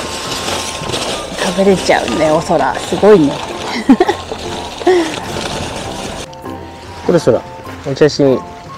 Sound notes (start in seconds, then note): 3.6 laughs